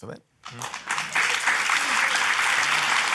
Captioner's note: applause